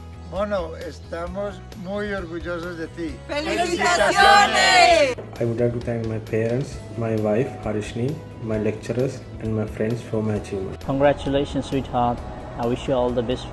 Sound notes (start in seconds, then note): 0.1 speaks foreign language; 3.5 all shout in foreign language